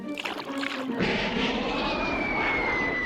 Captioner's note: whistling through air